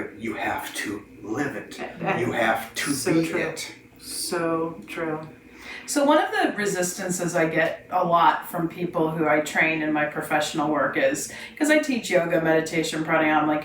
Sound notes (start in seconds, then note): none